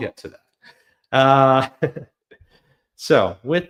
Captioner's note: chuckles